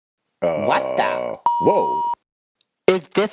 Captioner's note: beep